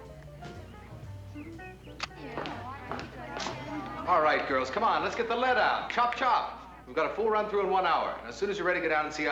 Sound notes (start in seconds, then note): 0.6 women chattering